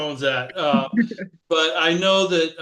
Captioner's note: laughter